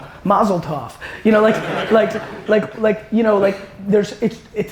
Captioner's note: audience laughing